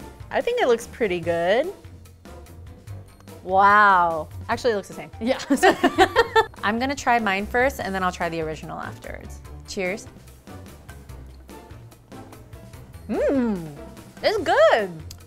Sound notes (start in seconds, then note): 2.3 playful music; 5.7 laughing; 10.5 playful music